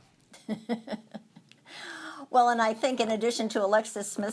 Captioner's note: laughs